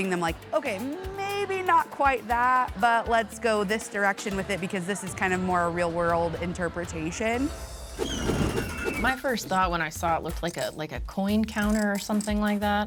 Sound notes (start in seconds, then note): 7.8 wind whooshes; 8.0 wheel screeches